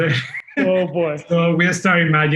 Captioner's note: laughing